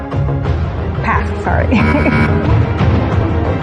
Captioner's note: buzzer sounds